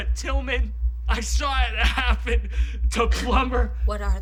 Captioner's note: sobbing